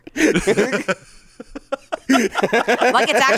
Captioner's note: laugh